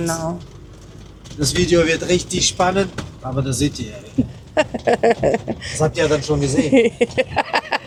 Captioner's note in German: gelächter